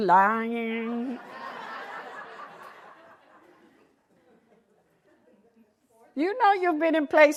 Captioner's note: laughter